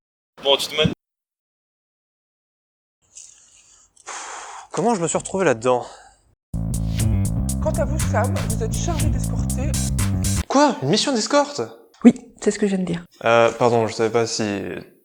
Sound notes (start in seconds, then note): 4.0 sigh; 7.5 muffled voice